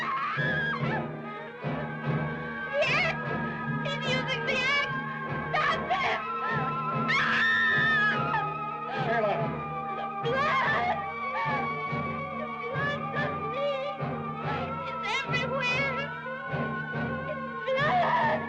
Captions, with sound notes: (Sheila screaming) - The ax, he's using the ax. Stop him! (screaming) - Sheila! - The blood. The blood's on me! It's everywhere. It's blood!